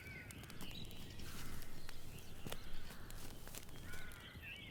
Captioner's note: birds chirping